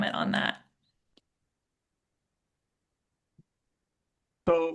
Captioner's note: silence